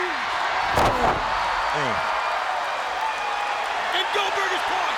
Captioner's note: thudding impact